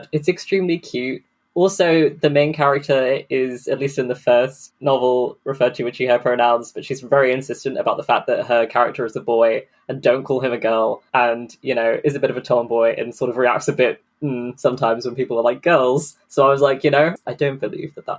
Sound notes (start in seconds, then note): 14.2 dubious noise